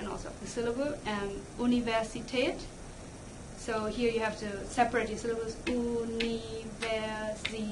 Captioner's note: clap